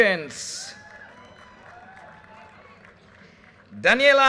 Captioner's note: audience cheers and applause